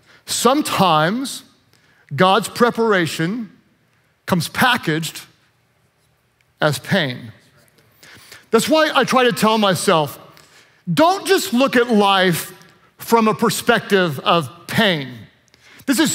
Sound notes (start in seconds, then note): none